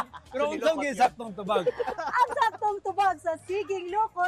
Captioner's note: laughs